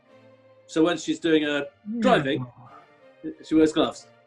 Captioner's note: making car noises